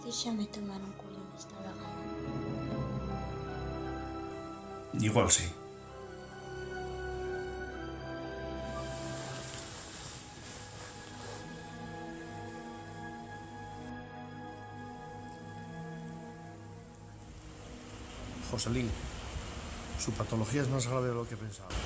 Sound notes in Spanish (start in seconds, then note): 16.6 Sonido de lluvia